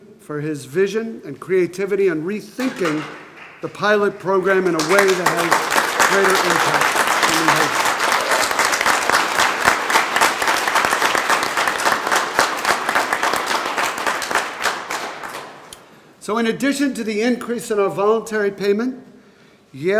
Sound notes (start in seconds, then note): 5.6 group applauding; 8.5 group applauding